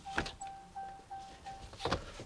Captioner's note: doors bang